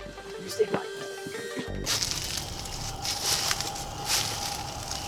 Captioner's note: footsteps in the leaves